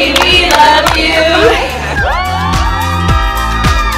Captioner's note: cheering